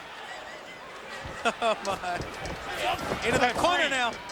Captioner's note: commentators laughing